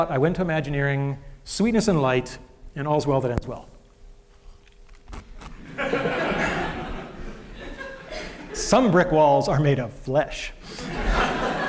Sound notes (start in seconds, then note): 5.6 laughter; 10.7 laughter